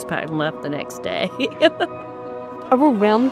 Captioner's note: laughs